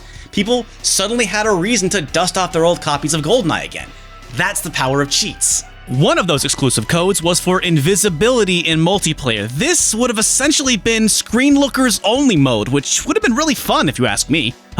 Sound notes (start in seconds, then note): none